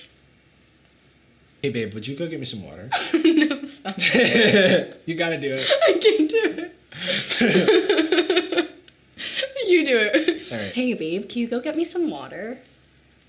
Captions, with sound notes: - Hey babe, would you go get me some water? - (laughing) No, sorry. - You got to do it. - I can't do it. (laughing) You do it. - All right. - Hey babe, can you go get me some water?